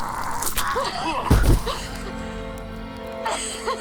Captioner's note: body thumping; cavewoman crying